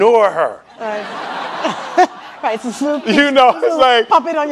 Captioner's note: laughing